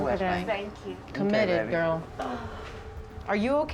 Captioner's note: groans